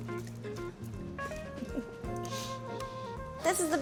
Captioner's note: giggles